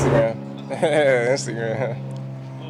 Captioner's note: chuckling